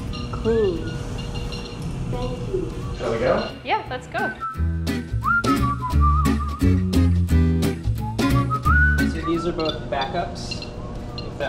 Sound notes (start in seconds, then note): 4.2 whistling; 6.9 upbeat strumming